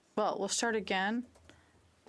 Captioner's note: speaking French